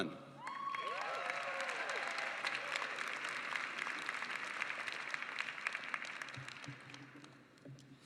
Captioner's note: applause